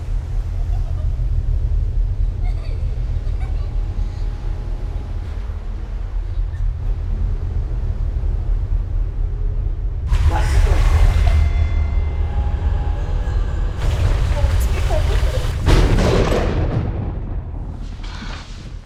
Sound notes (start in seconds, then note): 9.9 thunderclap